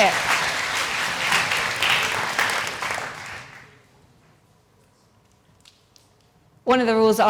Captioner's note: applause